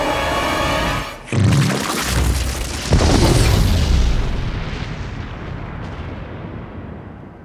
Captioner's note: explosion blasts; goo splatters